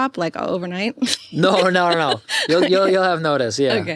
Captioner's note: laughs